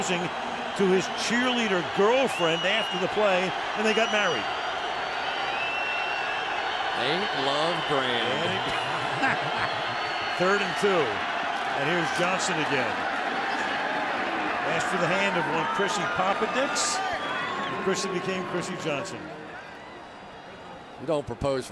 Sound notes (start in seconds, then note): 8.4 laughs